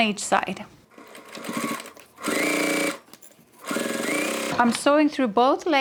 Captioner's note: sewing machine whirs